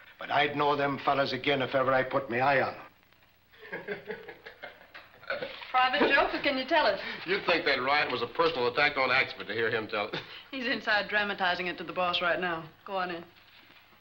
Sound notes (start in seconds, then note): 3.6 Lowery laughs